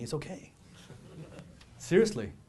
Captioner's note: audience laughs